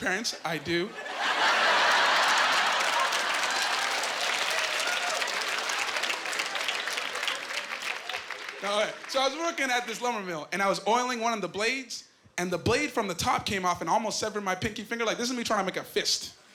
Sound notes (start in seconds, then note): 3.1 applause